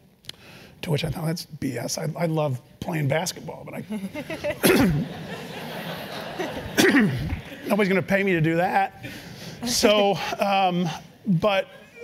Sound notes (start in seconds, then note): 3.8 laugh; 6.7 cough